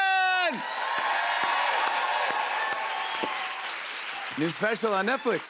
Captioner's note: cheers and applause